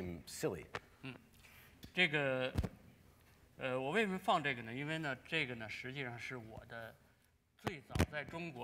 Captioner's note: speaking in Chinese